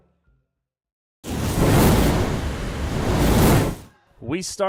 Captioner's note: sizzling fire sound